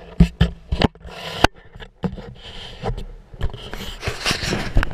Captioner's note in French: GRINCEMENT DE PENTURE DE GoPro